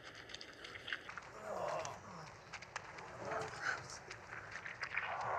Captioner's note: squishy sounds